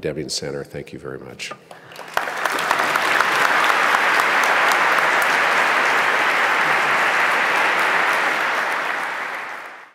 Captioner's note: applause